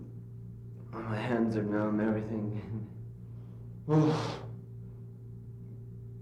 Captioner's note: sigh